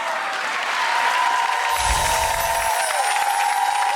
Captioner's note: applause